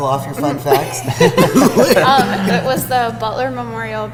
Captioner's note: laughing